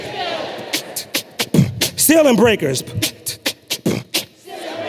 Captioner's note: beatboxing